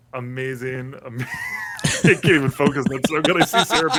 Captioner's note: laughter